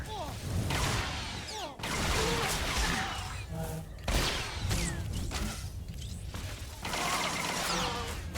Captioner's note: gun firing